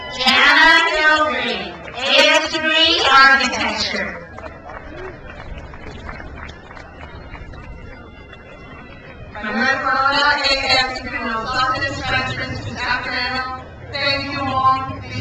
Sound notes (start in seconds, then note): 0.0 crowd cheers; 4.2 crowd applauds